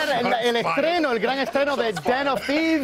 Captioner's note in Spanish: risas